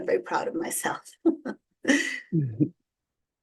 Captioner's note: chuckles